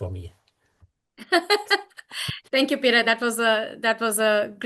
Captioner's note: laughs